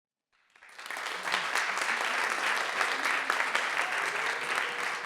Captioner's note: audience applauding